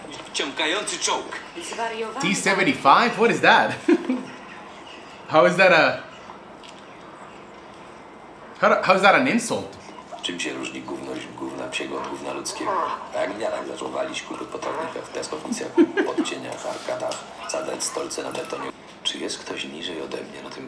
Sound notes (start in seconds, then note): 0.0 foreign language; 3.0 laugh; 11.2 foreign language; 15.6 laugh; 17.6 foreign language